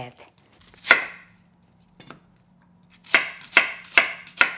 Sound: chopping

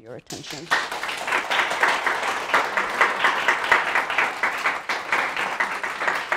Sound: audience applauding

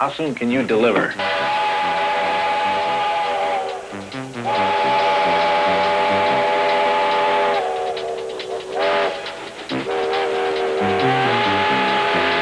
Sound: train whistle blowing

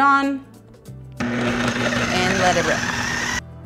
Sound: grinds

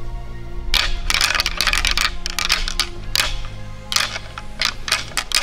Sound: antlers clanging

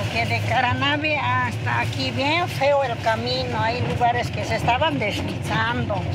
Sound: driver speaking in foreign language; speaking in foreign language

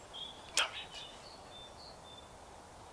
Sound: quietly

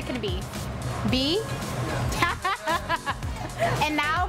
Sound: laughs

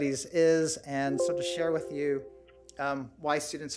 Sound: computer chimes

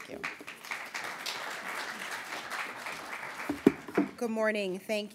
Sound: applause

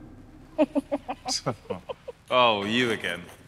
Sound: laughing

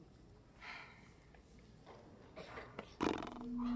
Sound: June sighs lightly; Declan blows raspberry

